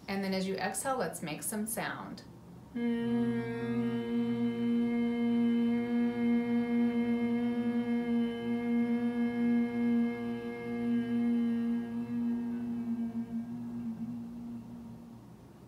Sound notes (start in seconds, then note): 1.6 humming sound